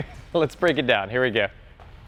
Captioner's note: laughs